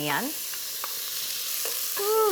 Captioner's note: pan sizzling